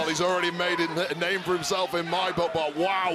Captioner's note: none